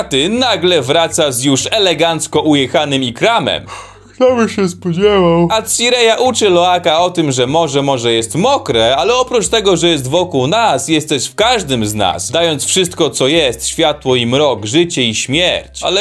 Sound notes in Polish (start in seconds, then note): 3.7 ziewanie